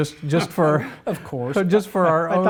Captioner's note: laughing